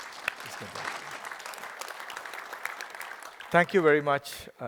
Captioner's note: applause